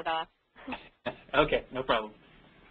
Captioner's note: laughs